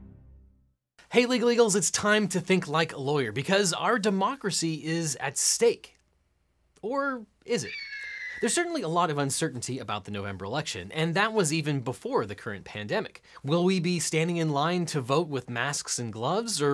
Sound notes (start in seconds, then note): 7.6 eagle caws